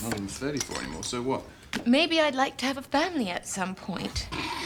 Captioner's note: scoffs